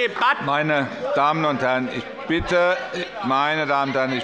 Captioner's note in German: Lebhafte Zurufe von der LINKEN